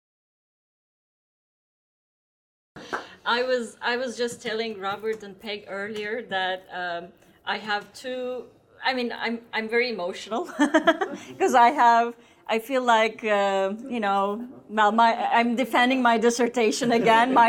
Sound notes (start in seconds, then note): 10.6 laughs